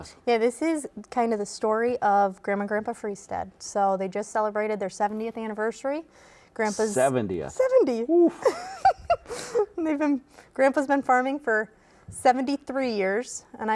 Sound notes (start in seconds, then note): 7.5 laughing